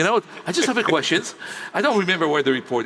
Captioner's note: laughs